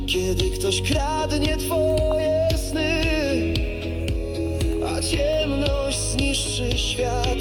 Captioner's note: distortion